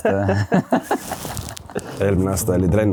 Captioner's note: laughs